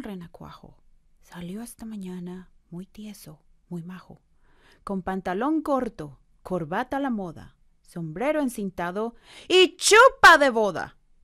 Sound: foreign language 00:07:12

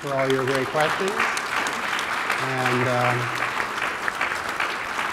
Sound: applause

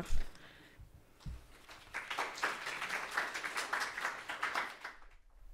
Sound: applause

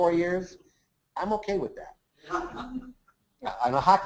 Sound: laughs

